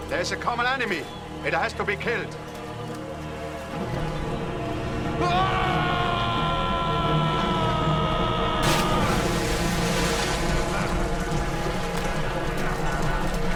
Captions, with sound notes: - There's a common enemy. It has to be killed. (yelling) (splash)